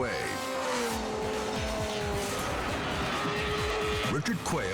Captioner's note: engine rumbling